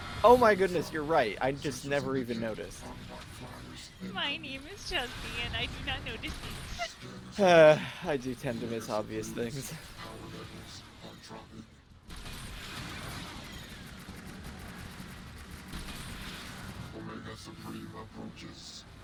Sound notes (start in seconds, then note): 6.6 laughs; 7.3 sighs